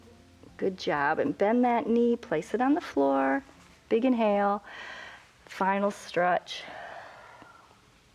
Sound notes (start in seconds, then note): 4.6 exhales; 4.7 inhales